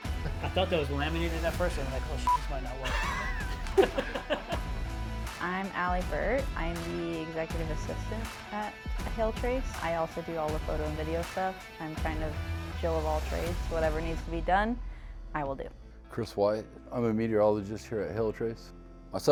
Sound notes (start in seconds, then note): 2.2 beeps; 2.8 laughs